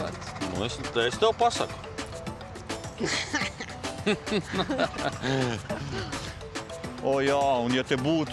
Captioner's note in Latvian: Smiekli